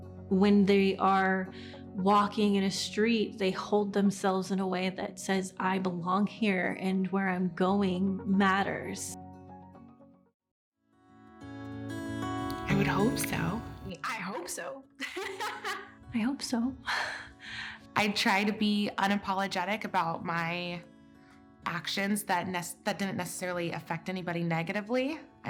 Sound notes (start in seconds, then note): 10.1 gentle music; 15.0 laughs